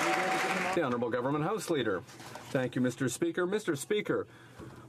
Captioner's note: some Applause